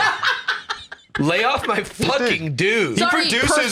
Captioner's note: laughs